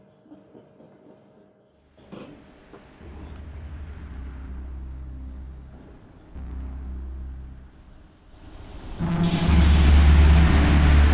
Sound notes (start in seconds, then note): 1.9 quiet and ghosting sounds; 8.7 scary sounds